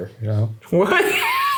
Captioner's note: laughing